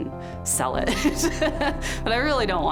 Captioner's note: laughs